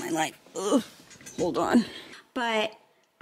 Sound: groans

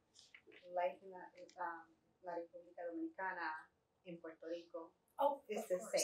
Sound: Spanish

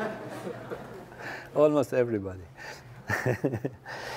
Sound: laugh

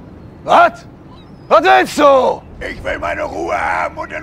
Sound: shouts

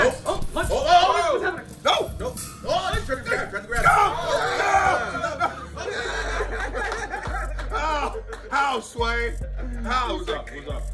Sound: laugh

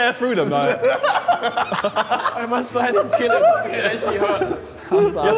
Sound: Sidemen laughing

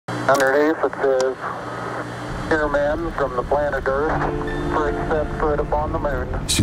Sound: recorded voices can be heard

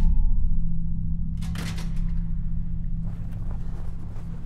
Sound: unsettling music continues; door shutting; snow crunching underfoot

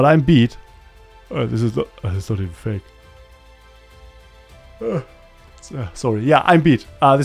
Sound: yawns; finishes yawning

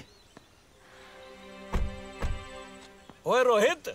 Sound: car door closes

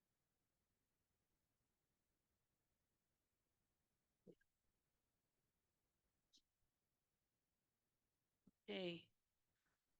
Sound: silence

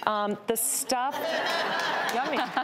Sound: audience laughing

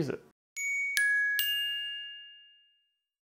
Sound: dinging

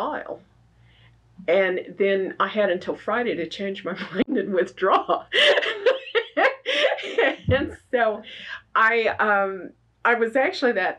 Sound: laughs

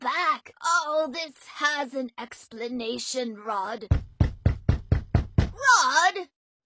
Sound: knocking

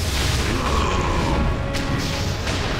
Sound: roaring

